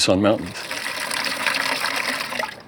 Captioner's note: water splatters